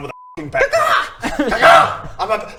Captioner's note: ca-caw!